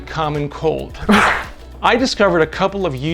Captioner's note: sneeze